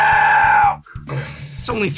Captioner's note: pained death metal noise; sigh